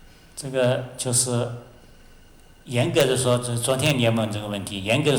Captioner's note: Mandarin